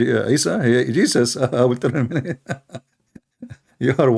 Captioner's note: Ketawa